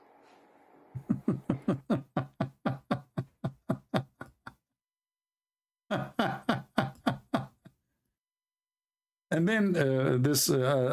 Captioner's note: Ketawa